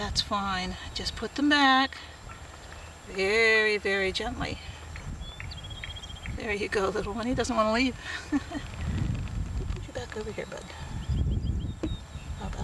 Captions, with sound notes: fine, just put them back very, very gently. There you go, little one. He doesn't want to leave. [chuckle]